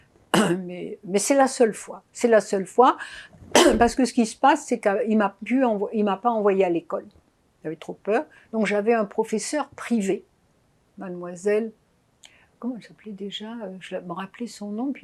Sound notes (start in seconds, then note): 3.5 coughing